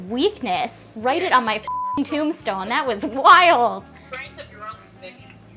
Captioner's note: beep